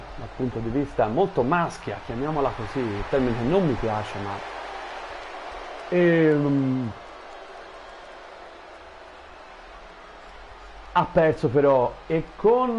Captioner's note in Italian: Applauso